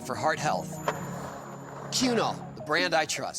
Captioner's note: skateboard wheels roaring